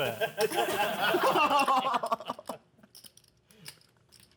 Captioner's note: laughter